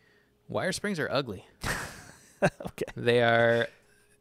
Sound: laughs

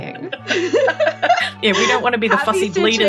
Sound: laughing

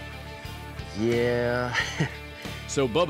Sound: chuckles

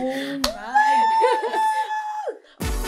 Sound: laughs

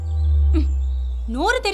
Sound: sighs

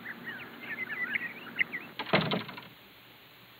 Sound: door closes

